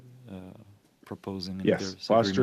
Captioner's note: speaking French